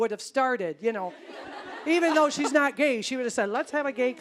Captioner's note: audience laughing